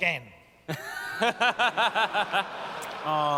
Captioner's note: laughter